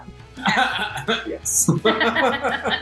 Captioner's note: laughing; both laughing